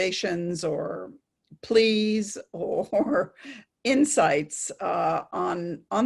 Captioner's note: chuckling